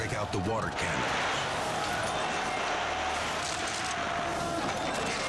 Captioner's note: water whooshing